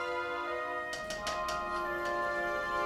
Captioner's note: soft tapping